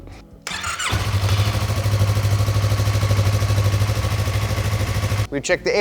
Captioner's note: motorcycle engine whirring